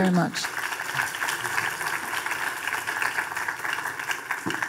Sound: audience applauding

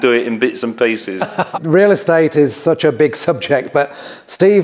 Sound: chuckles

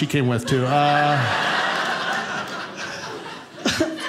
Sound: audience laughing

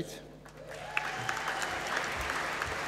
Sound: applause

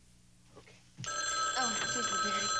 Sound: phone rings

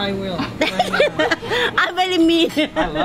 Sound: laughing

